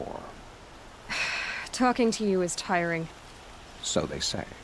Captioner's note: sighs